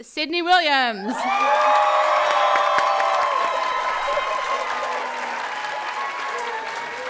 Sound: audience applauding and cheering

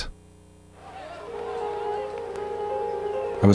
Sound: crowd noises

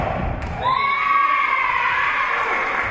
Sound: whistle being blown; spectators cheering and applauding

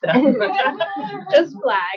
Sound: attendees chuckle

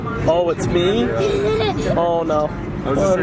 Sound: giggling

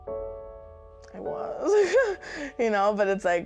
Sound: laughs

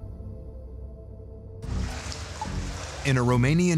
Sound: water dripping and sloshing

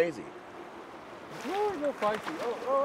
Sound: fish splashing

